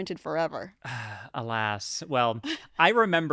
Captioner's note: sighs